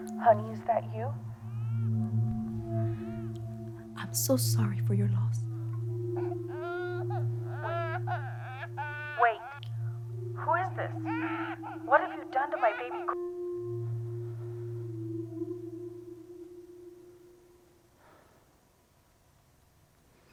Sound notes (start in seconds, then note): 5.5 baby crying